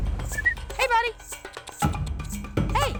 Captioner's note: whistling; clicks tongue